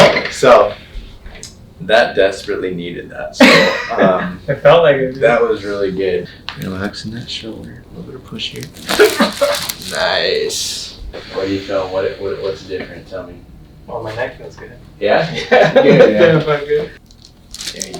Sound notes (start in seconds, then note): 3.1 laughs; 8.6 loud crack; 15.3 laughs